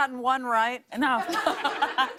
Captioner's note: laughter